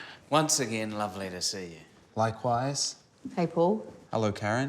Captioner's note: none